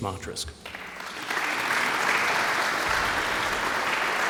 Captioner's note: audience applauds